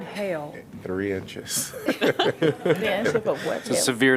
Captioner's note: laughter